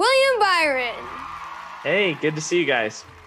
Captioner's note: crowd cheers